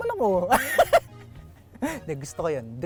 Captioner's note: laughs